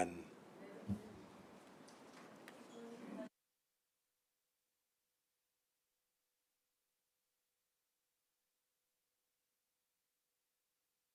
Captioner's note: silence